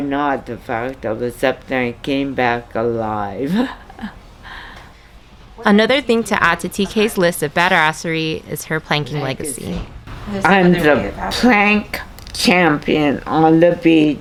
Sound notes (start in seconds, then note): 3.4 laughs